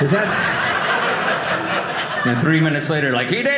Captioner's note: audience laughing